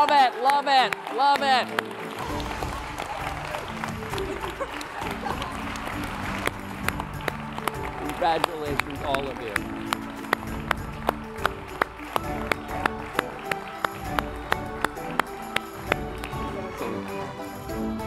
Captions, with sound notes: Love it, love it, love it. (upbeat music) Congratulations all of you. (upbeat music) (applause)